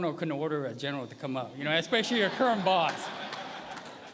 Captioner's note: laughter